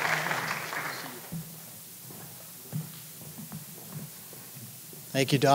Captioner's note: applause